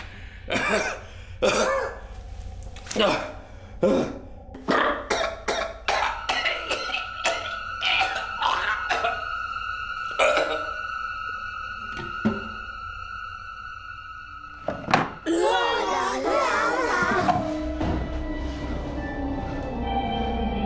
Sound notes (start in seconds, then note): 0.6 Mick heaving; 6.1 ominous music; 7.8 Mick gagging; 15.4 puppets harmonizing; 17.7 ominous music